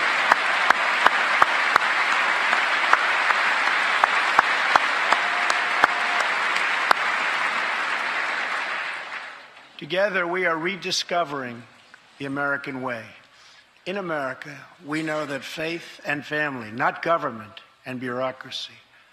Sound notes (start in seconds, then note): 0.0 cheers and applause; 4.0 applause